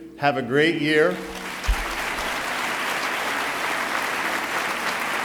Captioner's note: applauding